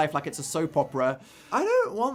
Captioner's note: deep breath